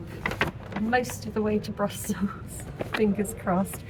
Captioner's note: none